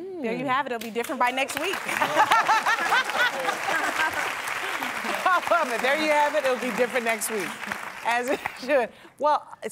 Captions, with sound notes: It'll be different by next week. [APPLAUSE] There you have it. It'll be different next week. Iasia.